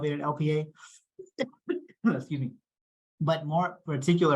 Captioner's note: coughing